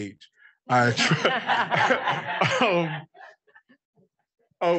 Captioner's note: audience laughing